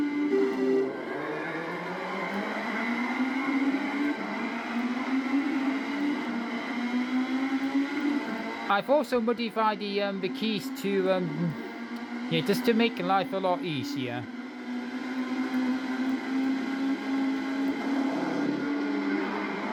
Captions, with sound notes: [START RACE SOUND] [CARS REVVING] I've also modified the keys to just to make life a lot easier.